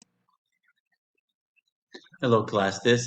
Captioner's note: silence